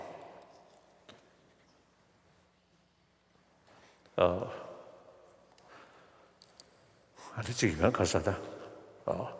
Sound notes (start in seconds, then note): 6.6 foreign Language